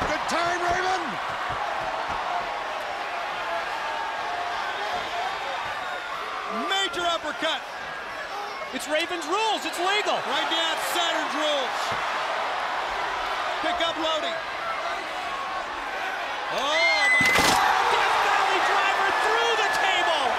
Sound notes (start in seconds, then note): 4.0 crowd cheering